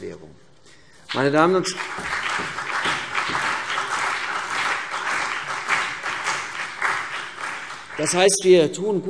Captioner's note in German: Beifall CDU und BÜNDNIS 90/DIE GRÜNEN